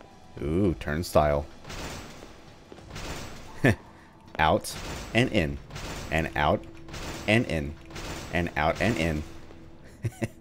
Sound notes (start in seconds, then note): 1.8 more clanking; 5.5 continuous clanking; 9.8 chuckles